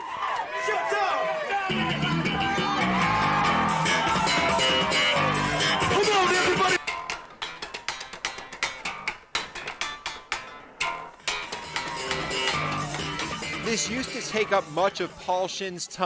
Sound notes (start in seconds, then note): 0.0 audience cheering; 1.4 energetic rock music; 6.7 guitar twanging; 11.3 energetic rock music continues